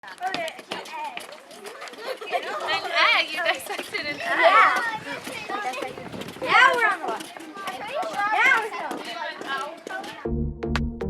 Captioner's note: kids talking; upbeat music